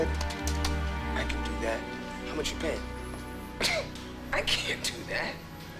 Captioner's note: scoffs